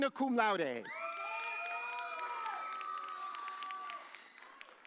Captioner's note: audience cheers